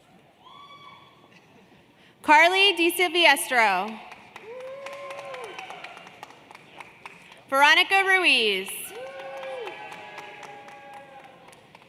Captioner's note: cheers and Applause